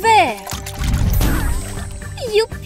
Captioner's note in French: boum